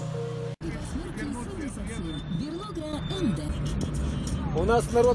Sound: sounds from the car radio

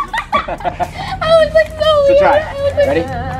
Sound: laughter

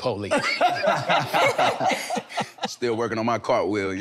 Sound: everyone laughing amusingly

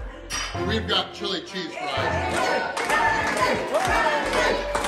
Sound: crowd

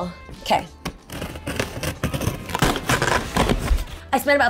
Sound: box ripping

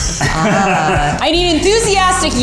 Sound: boys laughing

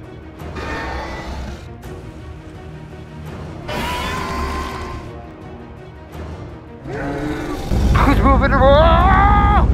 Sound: Scorpius Rex sounds

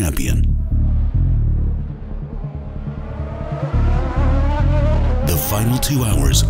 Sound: race Car Sounds

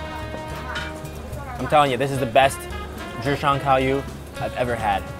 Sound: speaking Chinese

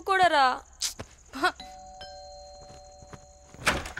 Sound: door bell rings

